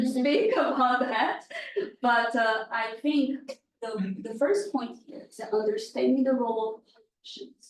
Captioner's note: laughs